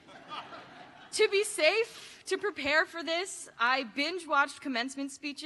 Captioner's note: laughter